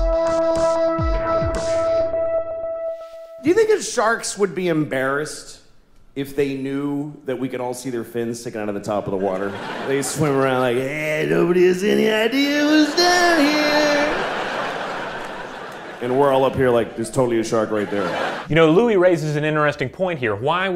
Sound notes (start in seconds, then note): 0.0 smooth, futuristic music; 9.0 audience laughter; 12.6 audience laughter